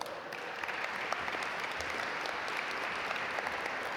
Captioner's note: audience applaud